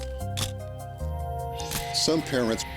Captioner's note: camera shuttle click